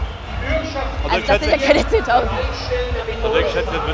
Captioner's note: lachend